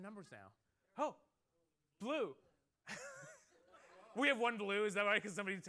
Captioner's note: laughter